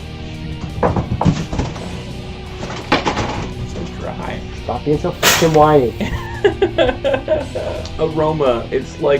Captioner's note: fake cry sound